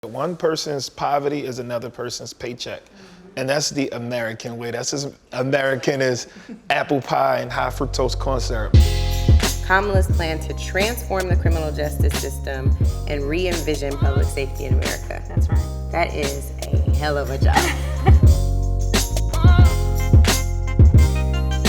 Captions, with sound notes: - One person's poverty is another person's paycheck and that's the American way, that's as American as apple pie and high fructose corn syrup. - Kamala's plan to transform the criminal justice system and re-envision public safety in America. - That's right. - That is a hell of a job. (laughter) (heavy beat music)